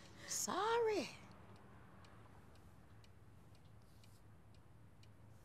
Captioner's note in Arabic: دقات الساعة